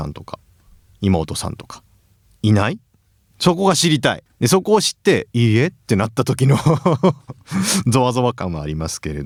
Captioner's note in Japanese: 笑い